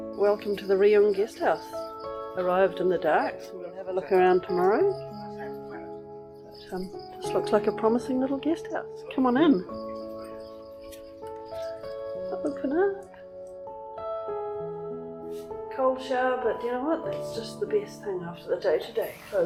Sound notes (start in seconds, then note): 5.4 crickets singing